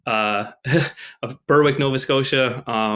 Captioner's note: chuckles